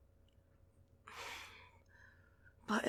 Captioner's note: sigh